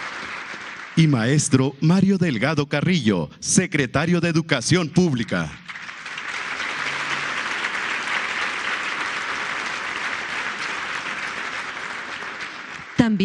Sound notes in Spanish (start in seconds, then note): 9.7 aplausos